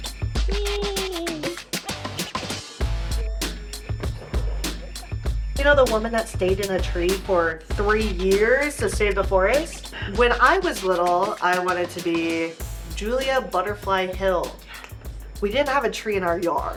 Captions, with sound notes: Eeeee! [Rhythmic music] [Feet scraping on ground] You know, the woman that stayed in a tree for three years to save the forest? When I was little, I wanted to be Julia Butterfly Hill. Yes! We didn't have a tree in our yard,